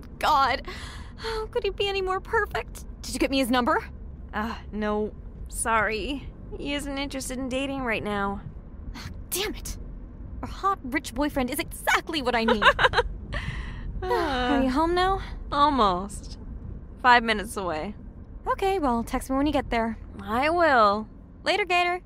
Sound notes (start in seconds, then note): 12.4 laughs